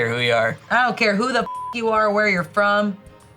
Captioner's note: beep